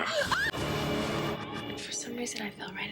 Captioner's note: woman screams; suspenseful music